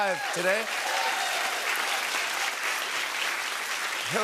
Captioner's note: applause